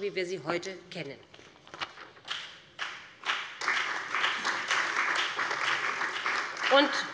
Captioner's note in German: Beifall bei dem BÜNDNIS 90/DIE GRÜNEN und der CDU